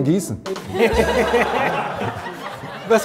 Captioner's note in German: Gelächter